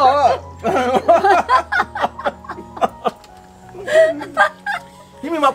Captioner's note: both laughing